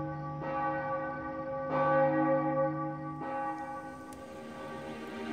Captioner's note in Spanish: Repique de campanas; Música suave